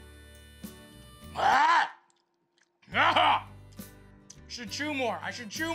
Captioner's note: clears throat